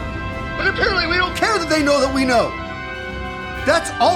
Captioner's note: radio